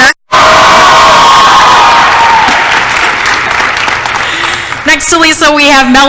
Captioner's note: applause